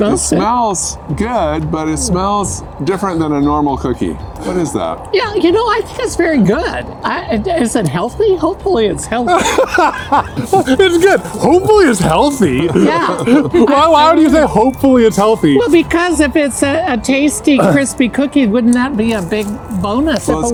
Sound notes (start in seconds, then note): 9.3 laughing